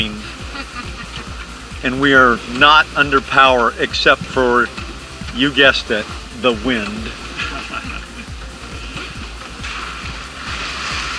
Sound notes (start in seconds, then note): 0.2 laughs; 7.2 laughter